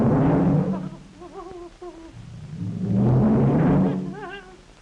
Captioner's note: fearful whimpering